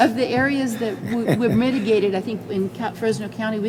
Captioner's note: laughs